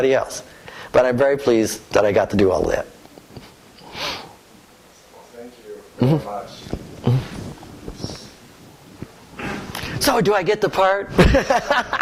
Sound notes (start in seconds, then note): 11.1 laughter